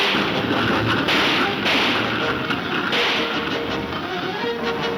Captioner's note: gunshots banging